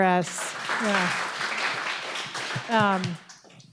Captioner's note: applause